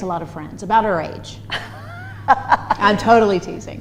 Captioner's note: laughs